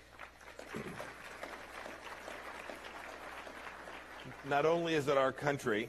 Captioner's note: applause